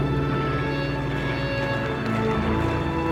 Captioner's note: plane engine noise